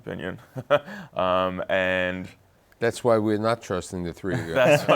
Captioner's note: laughs